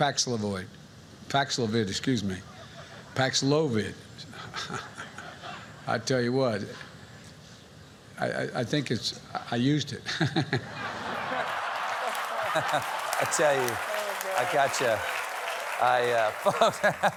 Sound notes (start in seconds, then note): 8.4 laughter